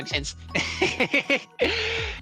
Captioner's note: laughing